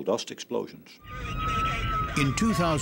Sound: sound of sirens

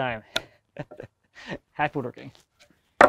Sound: laughs

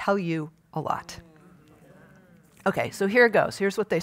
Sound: audience groans

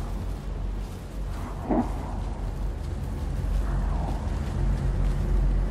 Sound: stealthy footsteps

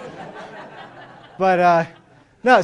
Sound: laughter

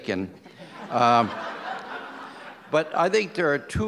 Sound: audience laughs

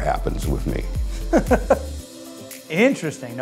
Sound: laughing

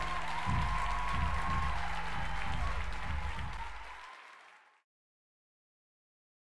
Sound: applause

